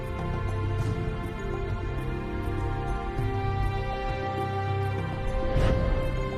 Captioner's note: dramatic music; birds chirping